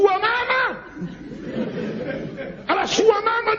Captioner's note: laughs